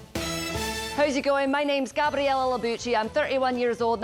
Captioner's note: in Scottish accent